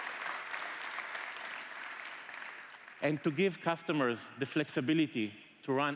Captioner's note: applause